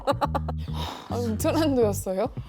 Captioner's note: sigh